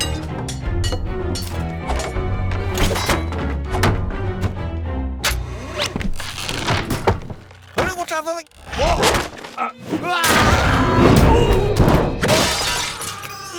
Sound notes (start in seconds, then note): 3.2 rope goes taut; 5.3 rope whirrs; 9.2 boards crash; 12.1 Mothnapper screams; 12.2 glass shatters